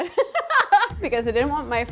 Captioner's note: laughs